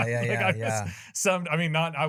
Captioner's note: laughs